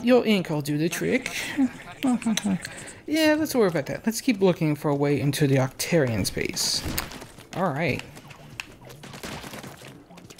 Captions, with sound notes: (sigh) hm hm hm. Alright!